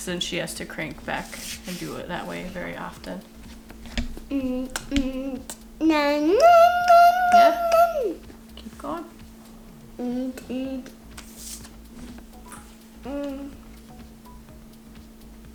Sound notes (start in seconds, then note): 4.3 vocalizes; 10.1 hums